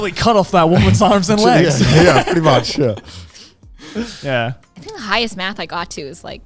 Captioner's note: laughs